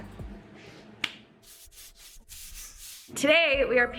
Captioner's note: hands slapping